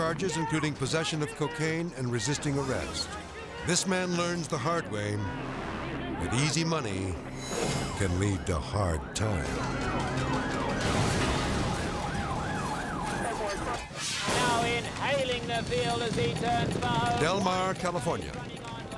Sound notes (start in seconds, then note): 9.4 sirens blaring